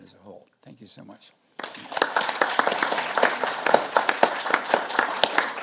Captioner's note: audience applauding